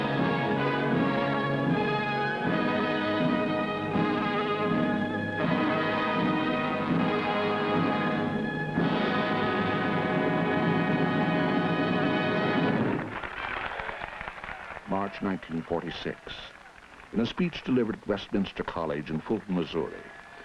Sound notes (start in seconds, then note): 9.2 dramatic music; 11.3 crowd applauding